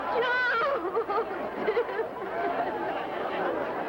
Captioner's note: crying